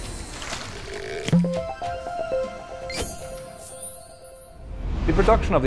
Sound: playful chime

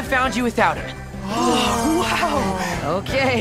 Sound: all exclaiming

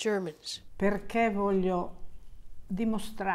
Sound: speaking Italian

